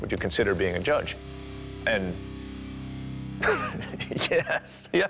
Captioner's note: laughs